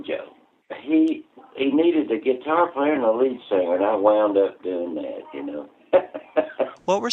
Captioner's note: laughter